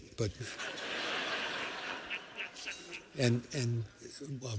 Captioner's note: laughter